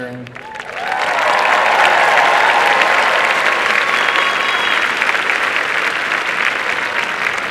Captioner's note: applause and cheering